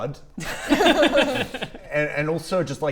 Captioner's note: concerned laughs